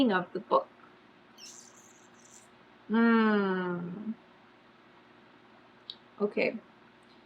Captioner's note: sucks teeth